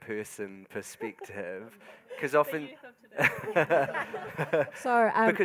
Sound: panellists and audience laughing

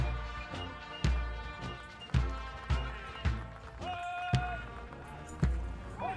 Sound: audience applauding; soldiers continue shouting commands

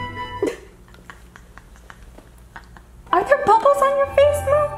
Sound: laughing

